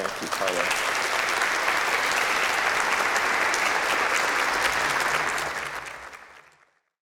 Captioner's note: applause